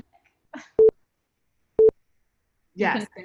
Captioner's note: timer beeps